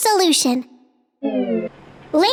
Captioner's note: slide noise